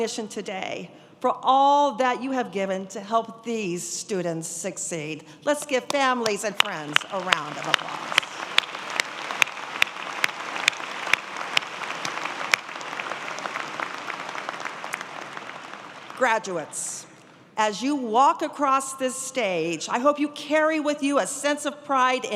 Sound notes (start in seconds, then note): 13.3 applause